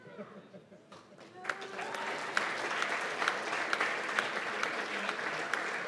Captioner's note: applause